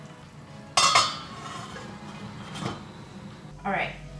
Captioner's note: lid clanging